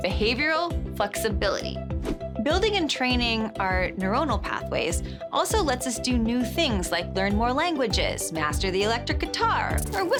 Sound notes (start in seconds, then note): none